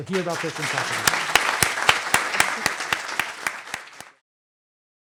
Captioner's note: applause